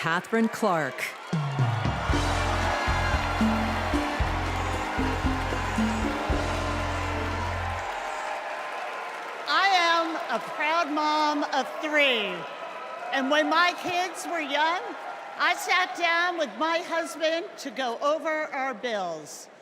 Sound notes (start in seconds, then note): 0.0 cheers and applause; 4.9 applause